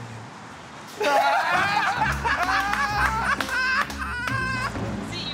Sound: laughter

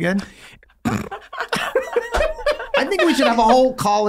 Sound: Charlie and Glenn laughing

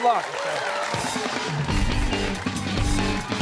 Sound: applause

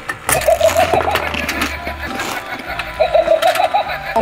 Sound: shark laughs

